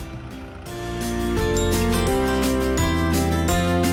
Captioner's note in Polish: dzwonek